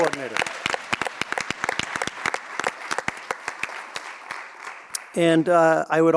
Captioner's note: audience cheers and claps